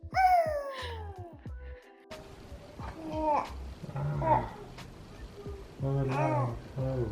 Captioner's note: excitedly screams